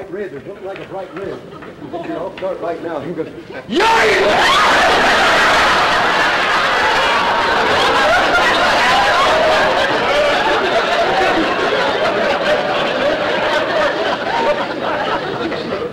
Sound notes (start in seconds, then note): 4.6 audience laughter